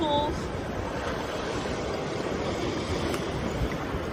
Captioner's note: water rushes